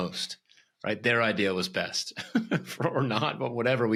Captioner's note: laughs